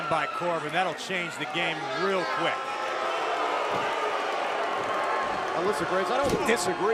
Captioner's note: crowd cheering